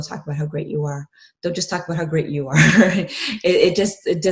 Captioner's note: chuckling